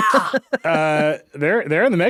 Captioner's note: chuckling